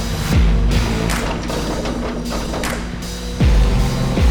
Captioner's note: upbeat music; vehicle whirring; crane clanking; upbeat music; vehicle whirring